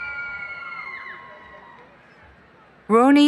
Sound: cheering

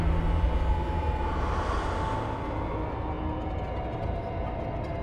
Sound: man begins to breathe

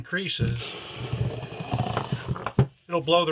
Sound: balloon deflating

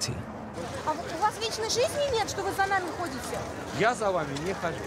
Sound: speaking in foreign language

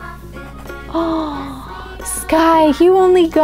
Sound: gasps

